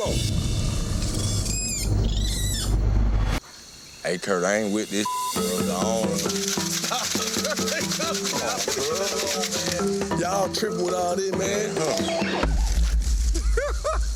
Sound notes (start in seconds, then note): 2.2 snarling; 5.0 beep; 5.5 rocks shaking; 6.8 man laughing; 12.9 birds cawing; 13.2 men laughing